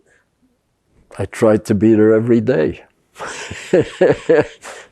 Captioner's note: laughing